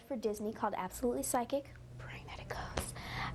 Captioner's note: whispers